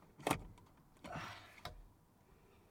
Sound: sighs

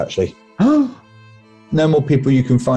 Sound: gasps

